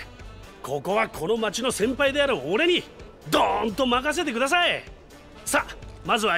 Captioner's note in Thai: เลียนแบบเสียงกลอง